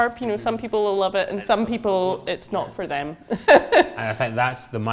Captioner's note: laughs